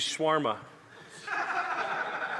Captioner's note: laughter